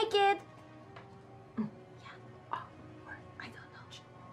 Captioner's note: whispering